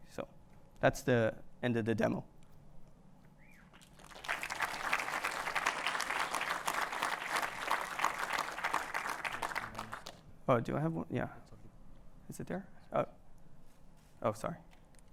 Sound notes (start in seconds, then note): 3.8 applause